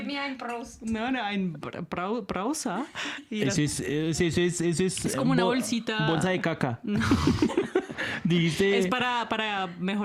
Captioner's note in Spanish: risas